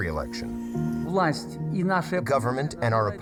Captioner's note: speaking foreign language